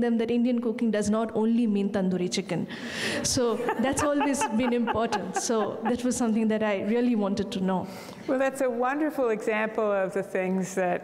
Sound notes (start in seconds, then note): 3.3 laughing; 3.4 audience laughing